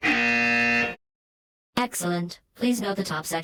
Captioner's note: alarm sound